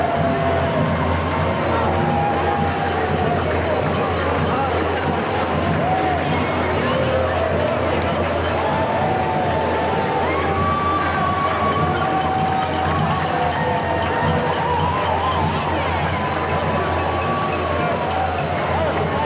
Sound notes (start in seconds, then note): 0.1 band playing; 2.2 cheering